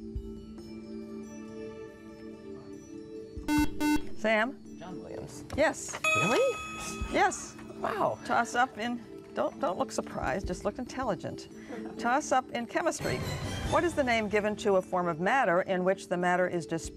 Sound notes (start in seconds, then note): 3.4 buzzer